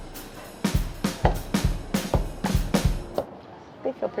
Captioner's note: chopping